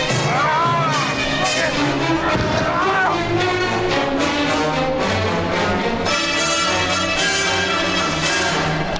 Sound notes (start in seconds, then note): 2.8 Chooper moaning; 4.5 dramatic music